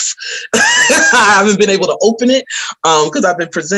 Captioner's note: laughs